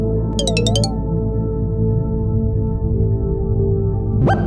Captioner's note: menu sound effects